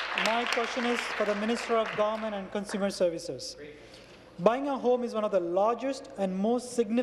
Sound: applause

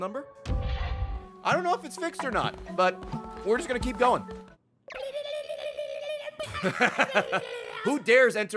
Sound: laughs

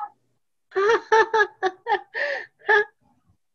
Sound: laughter

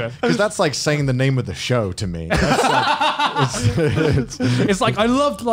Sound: laughs

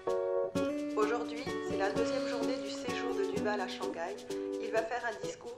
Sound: French

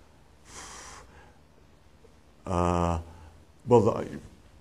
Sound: exhale

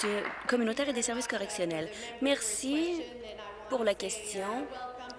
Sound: applause

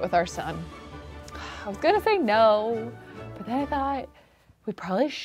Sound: sighs

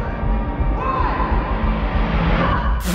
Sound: boy, echoing

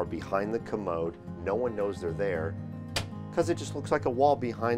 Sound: door clicks

